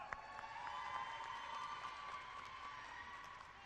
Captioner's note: cheering